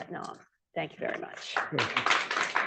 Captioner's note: applause